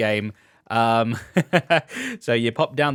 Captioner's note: laughs